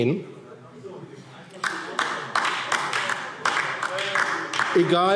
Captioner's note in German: Heiterkeit und Beifall DIE LINKE